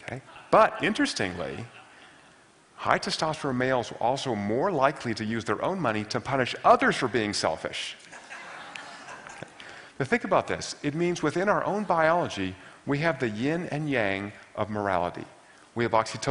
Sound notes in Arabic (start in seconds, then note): 8.1 ضحك